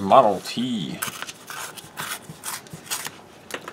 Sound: tearing sounds

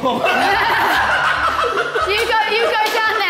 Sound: Sidemen laughing

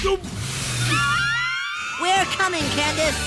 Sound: girls scream

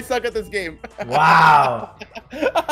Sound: laugh

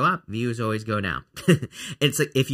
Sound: chuckling

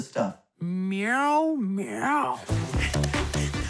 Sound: meows

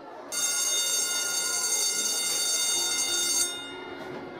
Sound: schoolbell ringing; gentle music

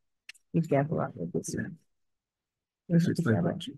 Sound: members chattering

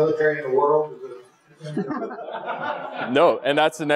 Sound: laugh

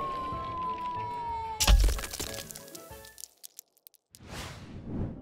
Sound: rocket lands

